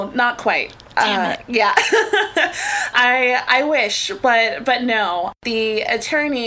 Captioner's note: laughs